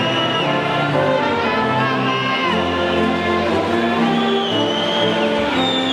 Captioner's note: audience whistles and faintly shouts